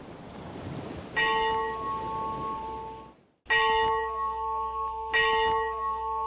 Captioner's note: sound: church bell rings at each new scene